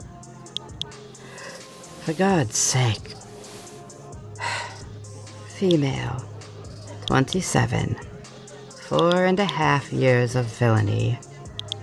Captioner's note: sigh